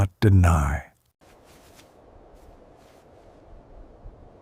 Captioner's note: wind blowing